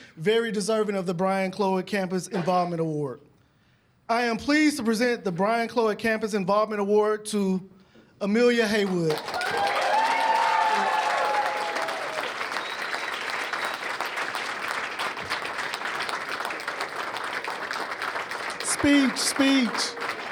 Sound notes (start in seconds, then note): 10.0 cheers and applause